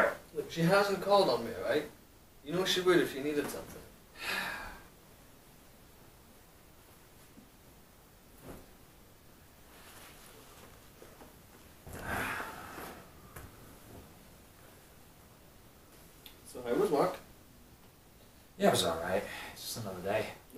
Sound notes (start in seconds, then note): 4.2 sigh; 11.9 Bob sighs as he sits down